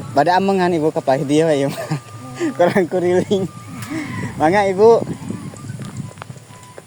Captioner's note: laughs